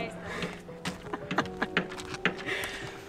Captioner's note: laughter